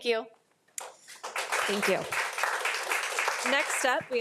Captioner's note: audience applauding